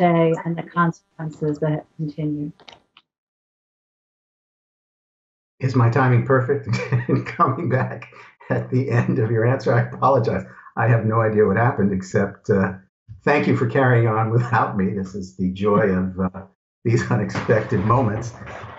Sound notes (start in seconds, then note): 9.5 laughter